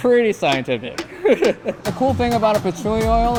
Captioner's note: chuckling